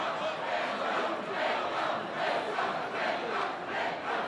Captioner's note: chanting